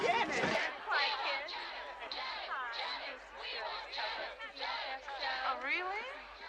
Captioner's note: Зрители скандируют